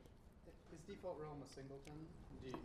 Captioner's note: voiceover